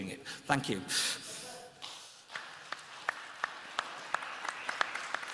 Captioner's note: applause